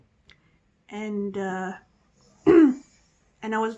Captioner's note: clearing throat